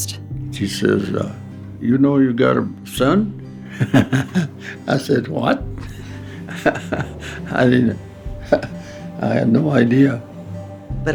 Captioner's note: laughter